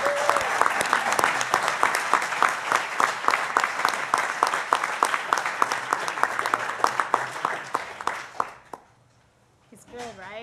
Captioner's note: applause